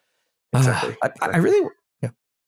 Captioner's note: sigh